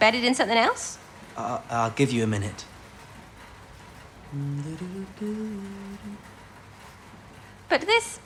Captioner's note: he hums